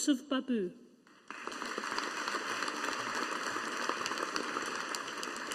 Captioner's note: audience applauding